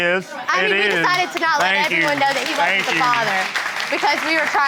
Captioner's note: audience applauding